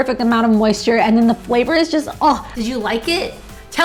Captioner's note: scoffs